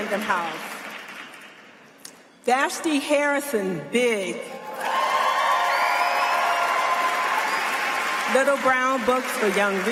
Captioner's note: applause